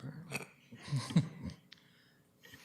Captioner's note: chuckling